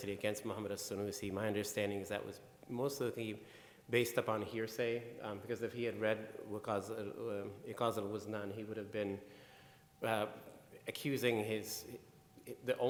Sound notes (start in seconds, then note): 6.2 speaking in foreign language